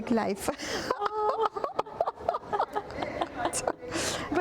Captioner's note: laughing